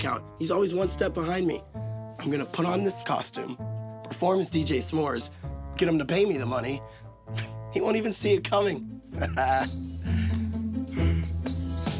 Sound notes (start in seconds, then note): 7.3 scoffs; 9.2 laughs